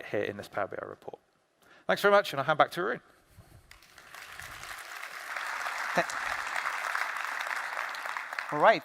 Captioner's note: applause